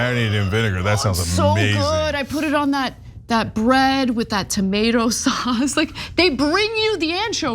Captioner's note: laugh